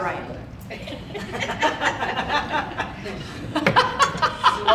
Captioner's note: audience laughing